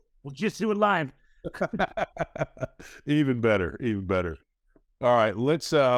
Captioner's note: laughs